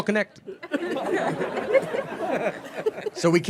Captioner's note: audience laughing